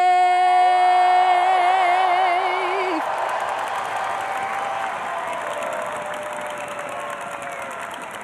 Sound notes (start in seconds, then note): 3.6 audience cheering